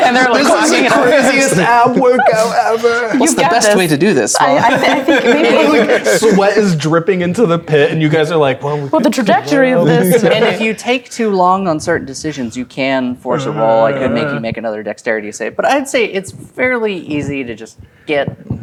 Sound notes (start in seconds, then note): 0.0 players laughing